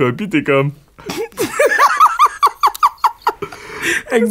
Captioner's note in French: faux sanglots; éclat de rire